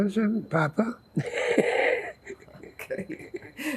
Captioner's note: laughing